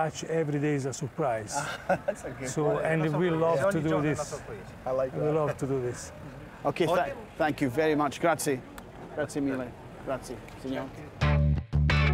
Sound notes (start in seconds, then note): 4.1 speaking Italian; 11.2 upbeat funky music